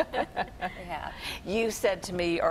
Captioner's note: laughter